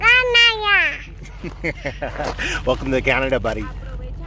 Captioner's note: laughing